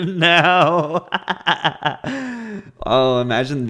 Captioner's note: laughs